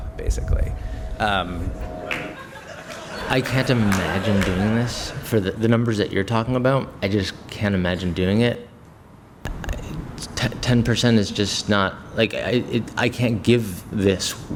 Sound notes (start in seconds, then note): 2.3 laughter